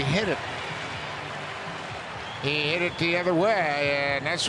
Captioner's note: cheering and Applause